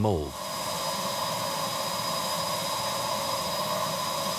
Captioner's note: vacuum whirs